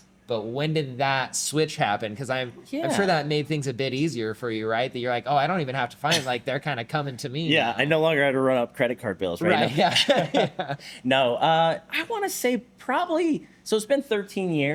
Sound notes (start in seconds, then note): 9.5 both laughing